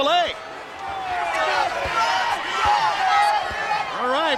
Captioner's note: crowd cheering